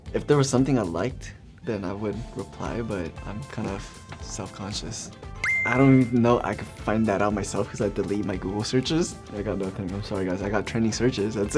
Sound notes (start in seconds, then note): 5.4 beep